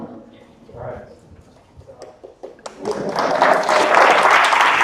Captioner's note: audience applause